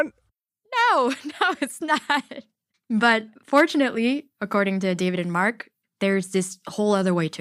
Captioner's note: laughs